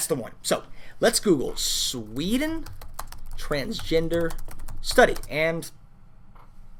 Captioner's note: typing and talking